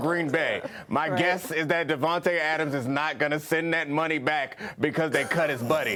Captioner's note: laughter